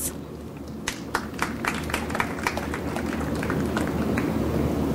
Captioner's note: audience applauds